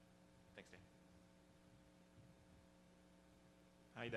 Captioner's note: voiceover